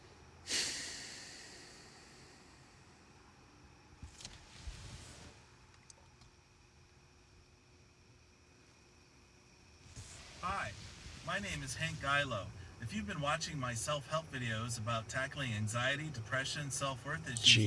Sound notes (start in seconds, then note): 0.4 Zach exhales heavily